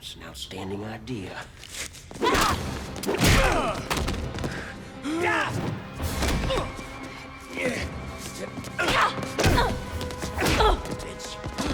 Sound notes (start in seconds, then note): 2.2 blows thudding; 3.3 tense music; 5.6 Gammon and Dalton grunting; 9.4 Kelly grunts; 10.3 punch thuds